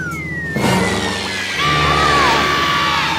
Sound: screaming

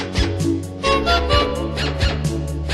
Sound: honk-honk-hobk

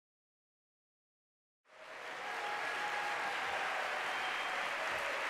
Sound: cheers, applause

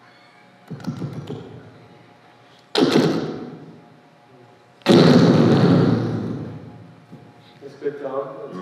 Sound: fart sounds

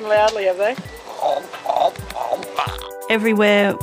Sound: imitates frog

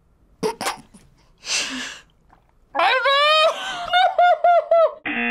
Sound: laughs; buzzer rings

